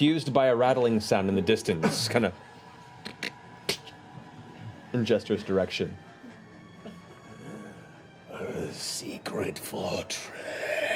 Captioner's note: snapping